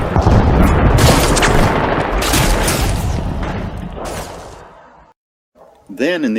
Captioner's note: sound of gunfire & explosions